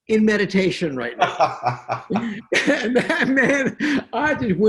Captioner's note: laughs